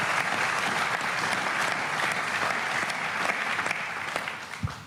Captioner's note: applause